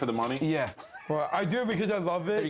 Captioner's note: laughter